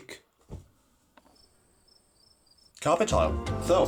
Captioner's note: crickets